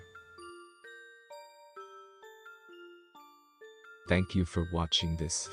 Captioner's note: voice-over